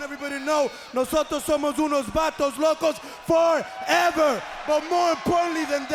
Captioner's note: speaks in a foreign language